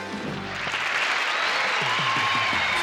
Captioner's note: cheering